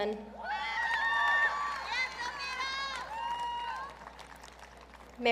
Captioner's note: audience cheering